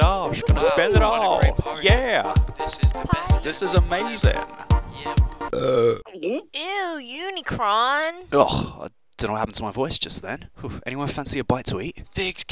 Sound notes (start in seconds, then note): 5.5 gulp; 5.5 burp